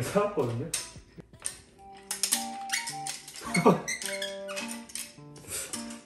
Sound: creak, Creak

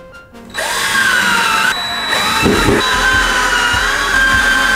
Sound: drill whirring

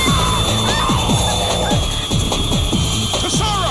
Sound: shrieking

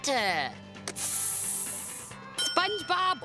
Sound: sizzling sound

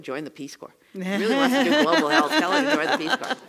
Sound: laugh

